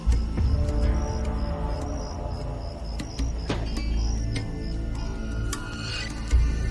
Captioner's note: insects chirping; ominous music